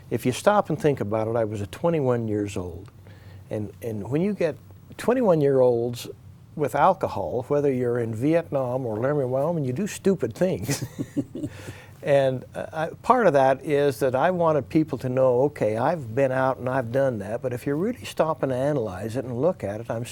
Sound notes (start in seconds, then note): 10.6 chuckles